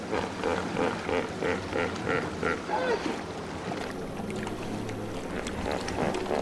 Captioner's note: water whooshing; suspenseful music; hippo grunting